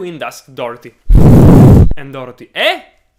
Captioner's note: blows on microphone